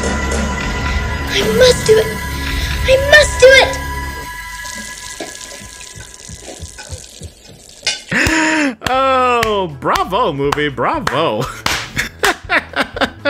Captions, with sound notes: I must do it. I MUST DO IT! *RUNNING WATER SOUNDS* Oh, bravo movie. Bravo. *GIGGLE*